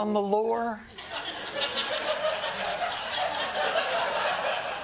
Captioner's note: laughter